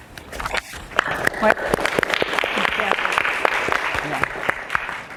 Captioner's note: applause